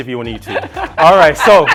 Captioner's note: laughing